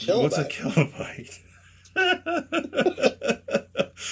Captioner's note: laughter